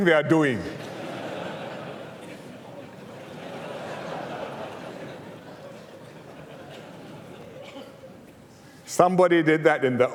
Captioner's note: laughter